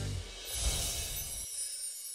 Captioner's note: swoosh; twinkling chimes